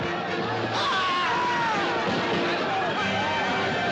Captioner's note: Gritos